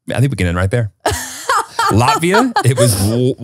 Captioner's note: laughs